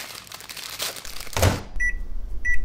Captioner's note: rustling; beeping